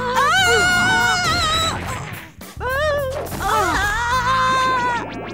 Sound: sounds of struggle

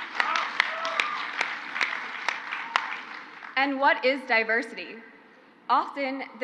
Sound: crowd applauds

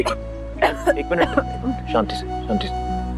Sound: coughs

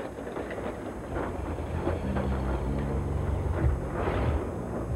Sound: loud car approaching

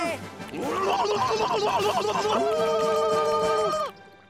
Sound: screeching

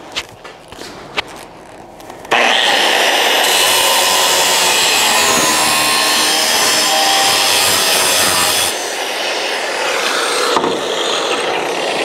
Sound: grinding

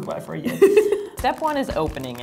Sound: laughs

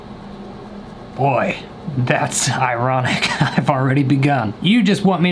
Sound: laughs

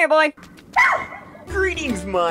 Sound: bark

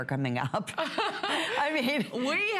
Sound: laughter

